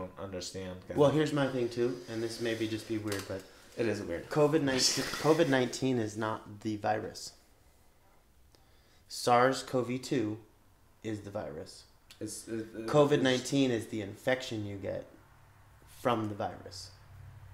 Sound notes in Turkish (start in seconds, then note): 7.6 garip bir sessizlik